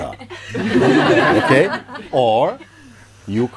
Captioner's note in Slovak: Smiech